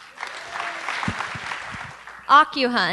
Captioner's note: applause